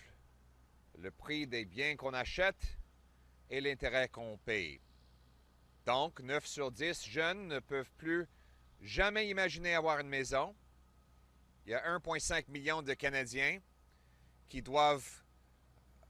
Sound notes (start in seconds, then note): 14.3 French